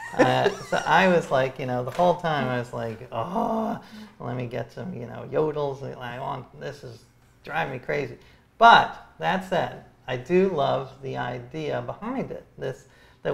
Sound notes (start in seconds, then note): 0.0 laughs; 3.2 groans